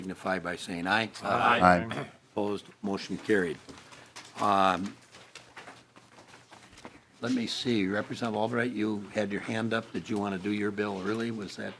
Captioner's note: chorus of ayes